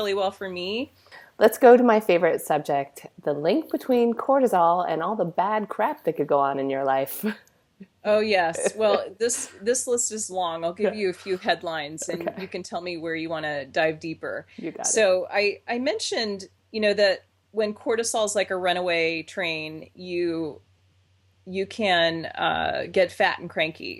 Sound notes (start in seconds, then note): 8.5 laughs